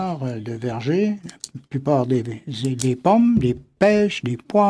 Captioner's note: speaking French